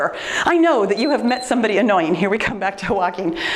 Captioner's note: timer beeps